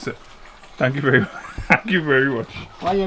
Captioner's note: laughs